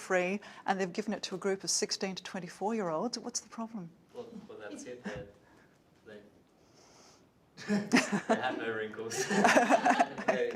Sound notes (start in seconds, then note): 7.6 laughs